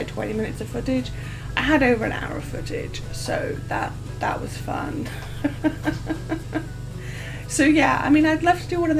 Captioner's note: laughs